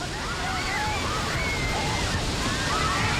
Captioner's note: passengers screaming